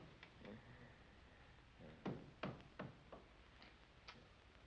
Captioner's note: light snoring